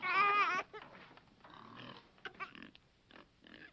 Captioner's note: baby crying